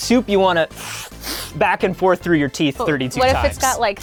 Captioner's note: slurps